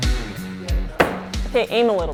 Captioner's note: star thudding